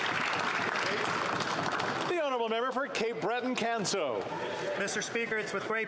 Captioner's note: some Applause